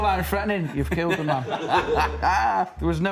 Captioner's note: laughs